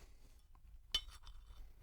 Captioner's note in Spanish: clinc